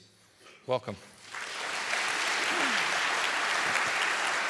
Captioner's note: audience applauding